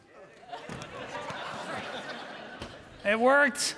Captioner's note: audience laughing